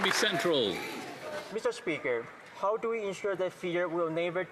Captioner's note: applause